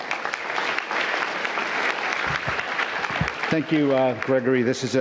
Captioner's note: applause